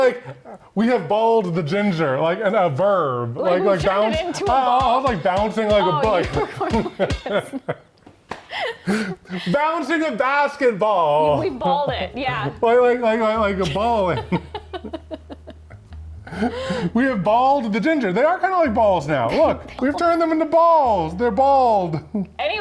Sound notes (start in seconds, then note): 13.4 laugh